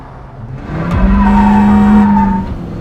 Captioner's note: dramatic music playing; horn; wheels squeaking